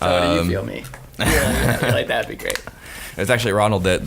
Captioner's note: laughing